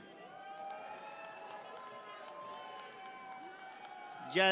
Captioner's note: audience cheers